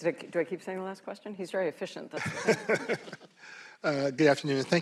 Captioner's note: laughter